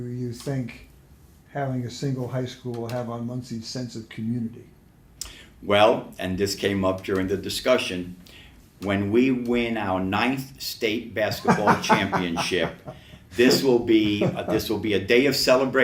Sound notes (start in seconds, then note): 11.4 laughs